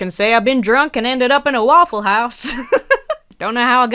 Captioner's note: laughs